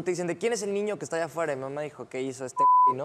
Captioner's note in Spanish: Bip